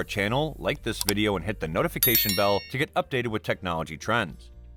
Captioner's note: with a bell sound